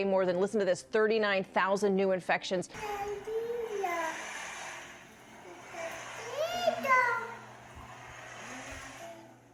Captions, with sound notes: More than, listen to this, 39,000 new infections. (speaking in foreign language)